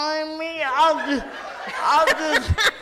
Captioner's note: audience laughs